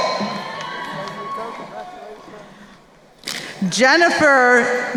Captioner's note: crowd cheering